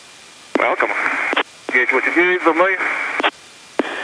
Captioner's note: foreign language transmission